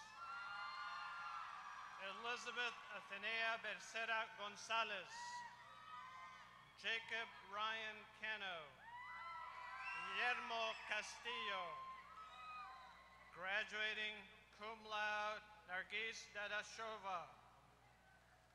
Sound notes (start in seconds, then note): 0.0 applause